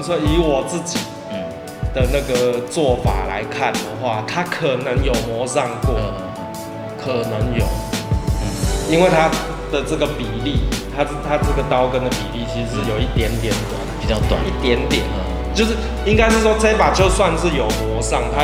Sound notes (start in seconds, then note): 7.9 tang